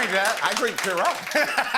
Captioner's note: laughs